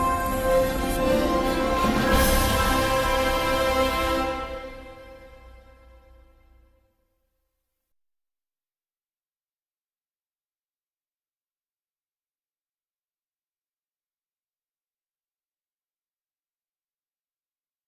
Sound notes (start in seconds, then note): 1.9 fanfare ends; 8.9 silence